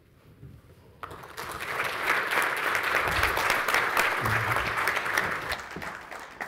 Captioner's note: audience and panelists applauding